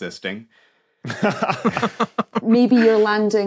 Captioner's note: laugh